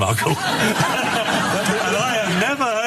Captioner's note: laugh